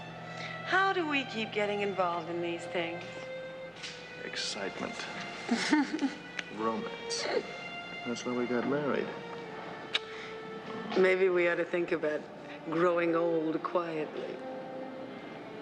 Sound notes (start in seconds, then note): 5.4 chuckles